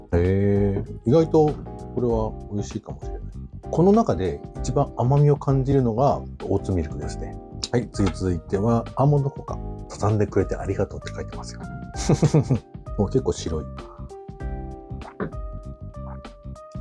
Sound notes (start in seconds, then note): 12.0 laughs